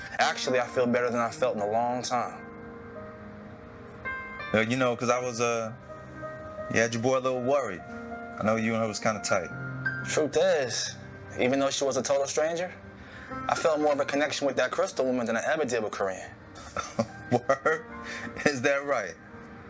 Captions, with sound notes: Actually I feel better than I've felt in a long time. Well you know cause I was uh... You had your boy a little worried. I know you and her was kinda tight. Truth is... Even though she was a total stranger, I felt more of a connection with that crystal woman than I ever did with corrine. [Laughing] Word... Is that right?